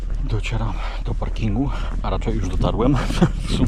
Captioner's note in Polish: śmiech